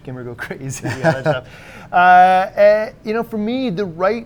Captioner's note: laughs